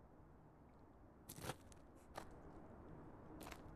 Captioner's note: rustling